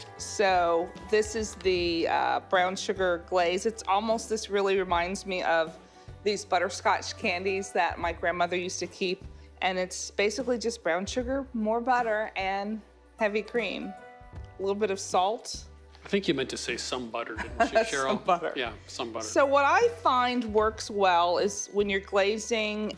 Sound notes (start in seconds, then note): 17.3 laughs